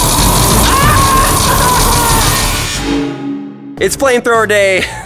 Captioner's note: screaming